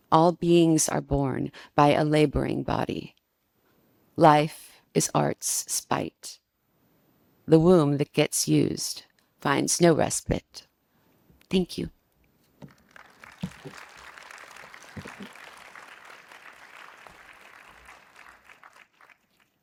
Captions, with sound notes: All beings are born by a laboring body. Life is arts spite, the womb that gets used finds no respite." Thank you. (participants clap)